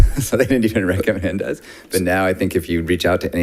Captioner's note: laughs